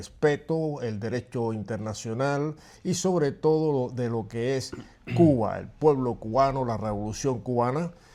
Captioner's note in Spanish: carraspeo